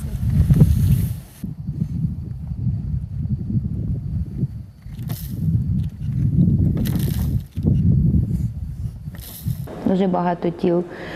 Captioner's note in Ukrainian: Звуки вітру, сиплять землю